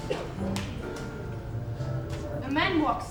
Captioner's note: snap